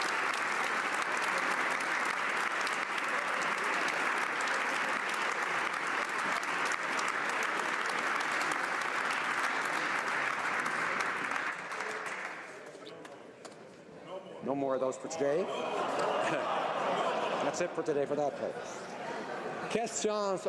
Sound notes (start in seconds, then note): 6.8 applause